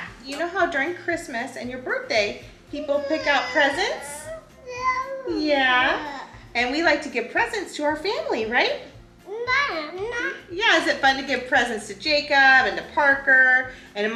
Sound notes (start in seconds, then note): 4.2 babbling; 9.2 babbling